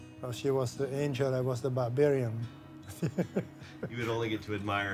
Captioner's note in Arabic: يضحك